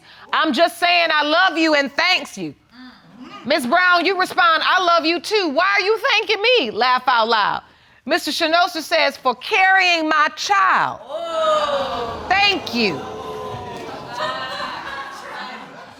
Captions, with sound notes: "I'm just saying I love you and thanks you." Ms. Brown, you respond, "I love you too. Why are you thanking me?" laugh out loud. Mr. Shenoster says, "For carrying my child." (AUDIENCE EXCLAIMING) "Thank you." (AUDIENCE LAUGHING)